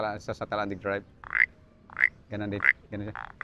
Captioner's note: mimics frog croaking